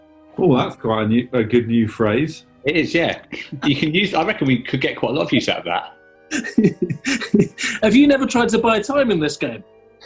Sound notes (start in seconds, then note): 6.3 giggling